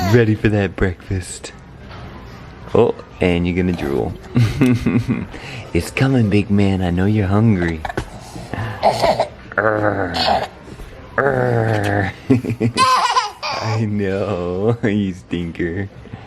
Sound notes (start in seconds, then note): 7.8 baby fussing; 11.3 growling